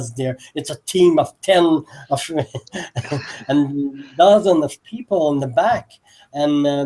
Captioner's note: laugh